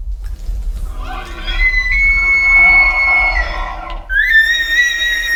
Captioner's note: answering elk bugle